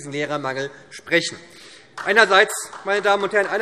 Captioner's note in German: Beifall